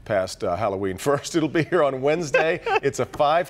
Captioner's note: laughter